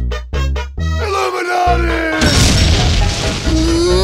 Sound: explodes

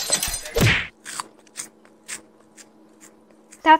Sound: chomping away on cookie

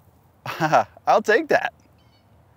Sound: laughs

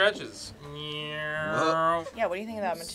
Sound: mimics car engine

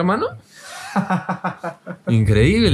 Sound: laughs

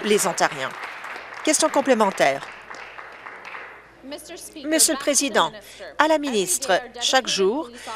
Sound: applause

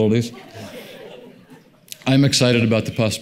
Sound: audience laughs

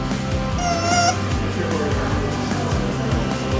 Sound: squeaky toy

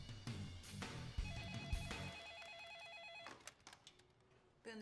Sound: phone ringing

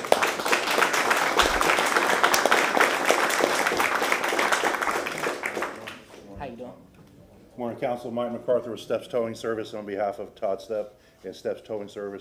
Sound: applause

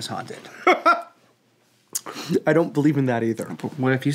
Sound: laughs

